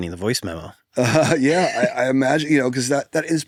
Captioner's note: laugh